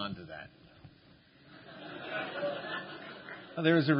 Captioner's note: laughter